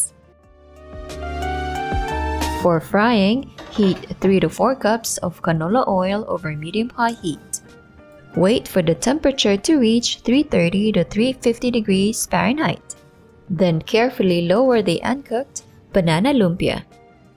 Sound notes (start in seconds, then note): 3.4 pan thuds